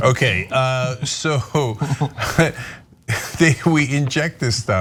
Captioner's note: laugh